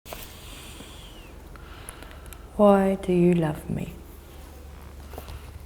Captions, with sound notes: (deep breathing) - Why do you love me?